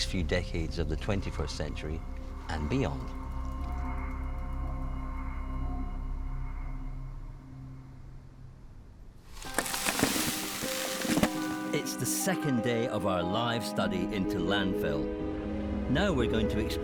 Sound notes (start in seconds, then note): 9.3 debris clattering; 9.3 light thoughtful music